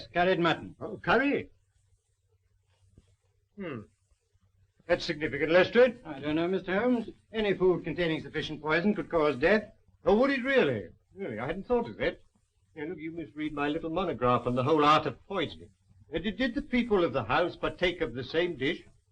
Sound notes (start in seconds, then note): 2.6 sniffing